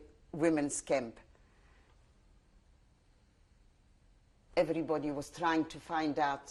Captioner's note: pauses for 3 seconds